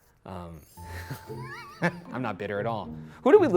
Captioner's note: laughs